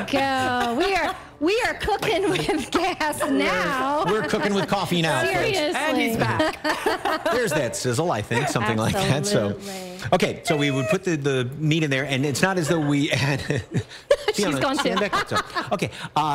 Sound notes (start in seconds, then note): 4.1 laughter